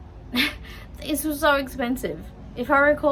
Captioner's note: scoffs